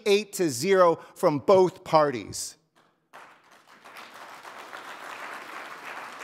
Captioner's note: audience applauding